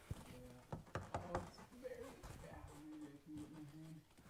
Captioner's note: knuckles rapping